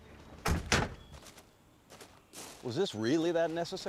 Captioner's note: car doors open; car doors close